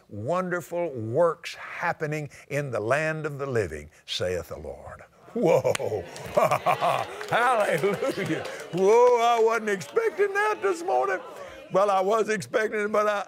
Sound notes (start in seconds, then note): 5.7 applause